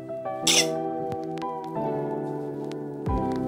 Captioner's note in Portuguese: espirro